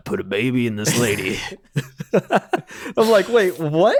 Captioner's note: laughing